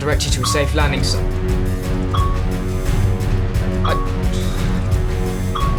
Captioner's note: radar beeping